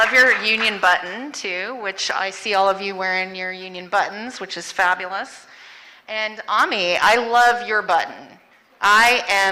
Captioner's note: applause